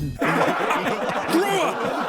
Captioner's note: senators laughing